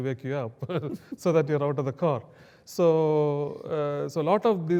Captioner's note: laugh